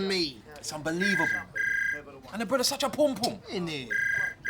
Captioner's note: phone rings